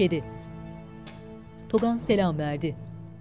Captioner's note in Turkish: El vurma sesi